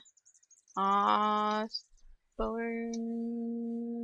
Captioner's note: none